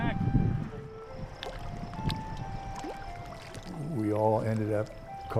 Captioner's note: water sputtering